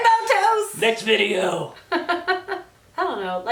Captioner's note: both laugh; laughs